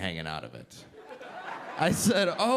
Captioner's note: audience laughing